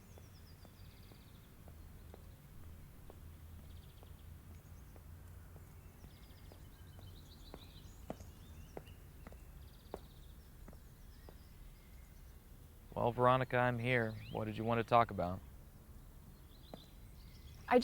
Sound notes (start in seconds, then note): 3.8 birds chirping; 7.8 footsteps thumping